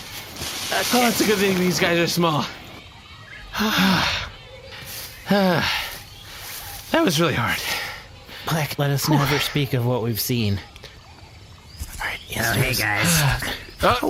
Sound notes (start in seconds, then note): 1.4 breathless; 3.5 sighs